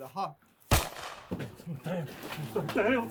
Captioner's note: shot fired